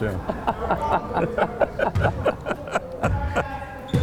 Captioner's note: both laughing